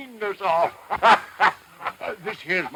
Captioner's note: sheriff laughs